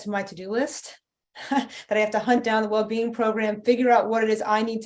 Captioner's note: chuckle